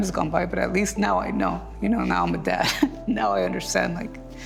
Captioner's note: chuckling